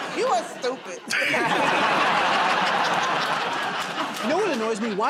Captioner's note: laughter and applause